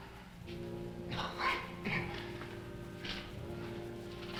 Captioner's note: Dan coughing